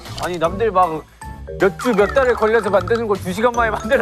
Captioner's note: whining